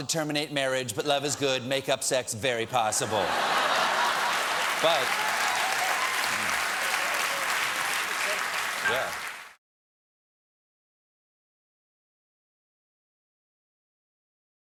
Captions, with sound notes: I WANT TO TERMINATE MARRIAGE. BUT LOVE IS GOOD. MAKE-UP SEX VERY POSSIBLE!" ( LAUGHTER )